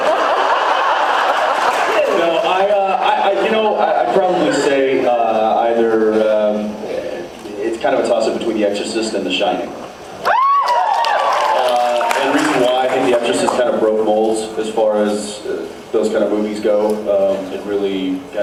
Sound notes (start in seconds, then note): 0.0 laughs; 10.2 cheers, applauds; 10.6 applauds